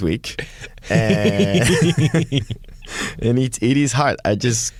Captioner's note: laughter